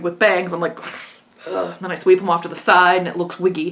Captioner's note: scoffs